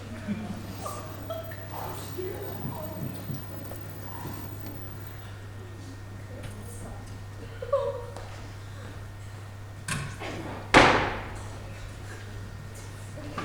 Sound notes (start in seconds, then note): 2.3 audience awws